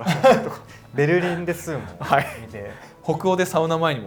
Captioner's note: laughter